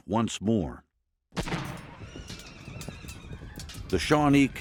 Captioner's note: gunshots banging; horses neighing